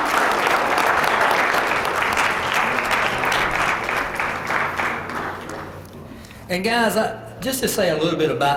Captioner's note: applause